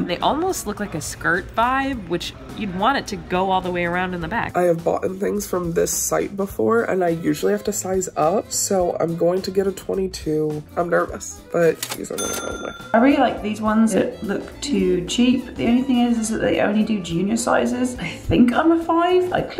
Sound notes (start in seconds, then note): 11.8 cash register ring